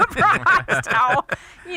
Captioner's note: laughing